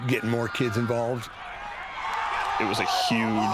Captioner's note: crowd cheering